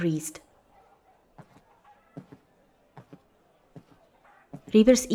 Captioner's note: soft footstpes